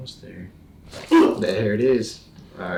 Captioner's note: body cracks; patient groans